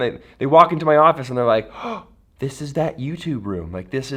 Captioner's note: gasp